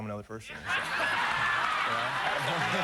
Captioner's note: laughter